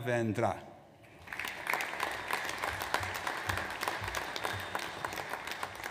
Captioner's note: audience applauds